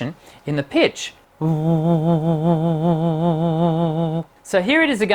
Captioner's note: pulsing humming